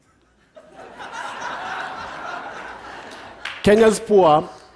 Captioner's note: laughter